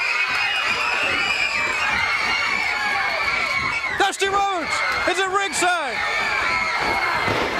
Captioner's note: crowd cheering